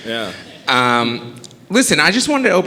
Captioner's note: audience chuckling